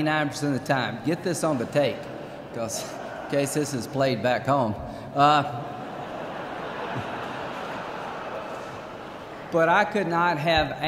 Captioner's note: laughter